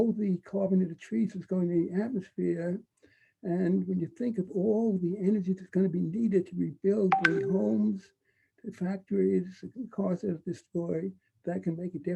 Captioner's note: computer sound